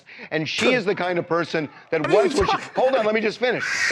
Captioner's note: laughter